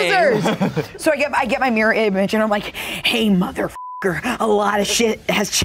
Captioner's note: beep